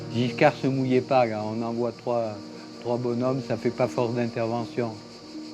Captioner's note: speaking in French